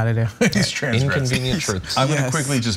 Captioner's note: laugh